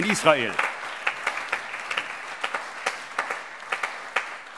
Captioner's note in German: Allgemeiner Beifall